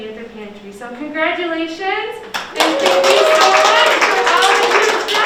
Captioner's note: applause